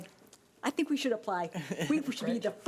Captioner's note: laughing